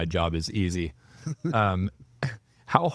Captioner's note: laughing